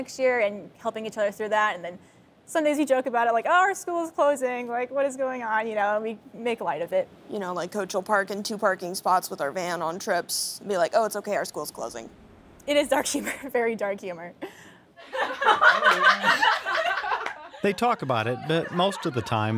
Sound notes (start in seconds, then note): 15.1 laughing loudly